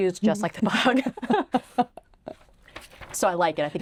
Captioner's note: both laughing